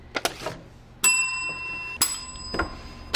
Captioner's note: bell dings